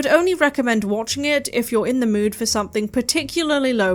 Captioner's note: none